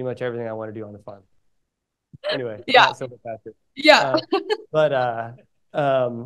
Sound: laughing

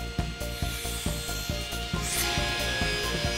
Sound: machinery whirring; saw buzzing

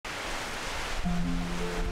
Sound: rain; sentimental music

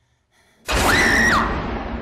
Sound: screams

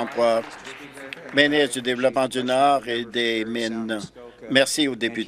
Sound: applause

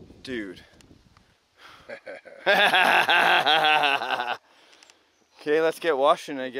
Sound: laughs

